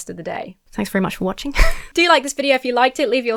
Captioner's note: wheezes